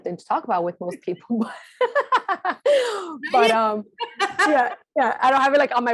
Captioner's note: laughing